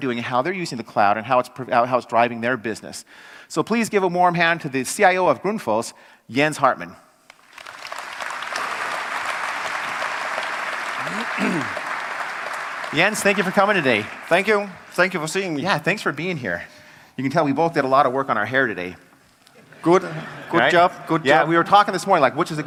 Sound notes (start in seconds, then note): 11.4 applause; 19.5 laugh